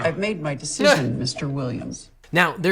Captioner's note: laughing